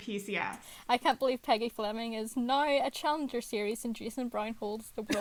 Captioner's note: sarcastically